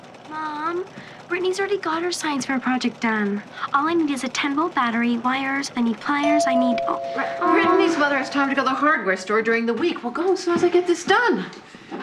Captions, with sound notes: Mom, Britney's already got her science project done. All I need is a 10 volt battery, wires, I need pliers. (DOORBELL RINGS) I need... Britney's mother has time to go to the hardware store during the week. We'll go as soon as I get this done.